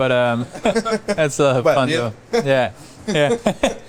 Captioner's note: laughs